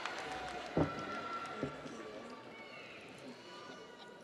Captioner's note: audience applauds; audience cheers